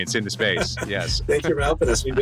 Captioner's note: laughing; laughs